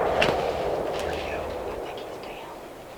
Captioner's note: whispering